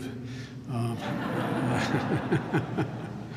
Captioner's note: laughter